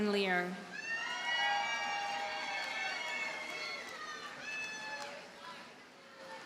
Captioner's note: audience cheers and applauds